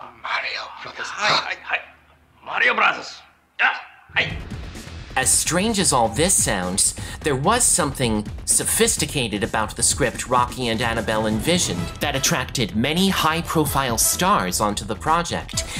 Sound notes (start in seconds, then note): none